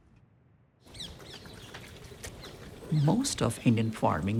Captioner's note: birds twittering